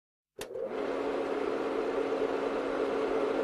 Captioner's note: projector clicks, whirrs